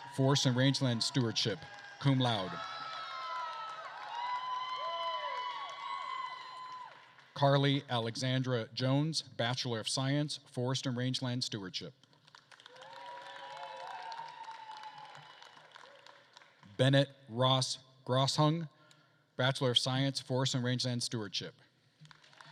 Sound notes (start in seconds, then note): 2.8 attendees cheering and applauding; 12.3 attendees applauding and cheering